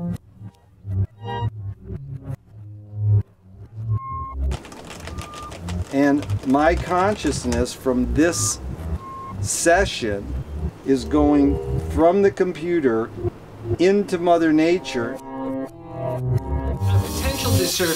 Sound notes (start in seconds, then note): 0.4 dissonant synth music; 4.3 keyboard clacking loudly; 15.8 dissonant synth music